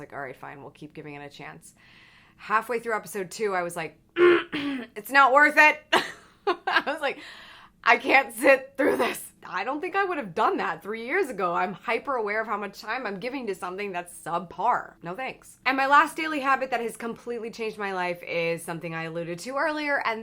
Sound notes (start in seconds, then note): 4.1 clears throat loudly; 6.3 laughs